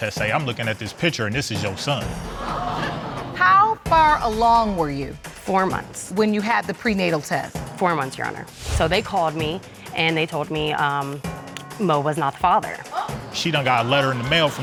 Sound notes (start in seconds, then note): 2.3 audience exclaiming; 11.5 clicks tongue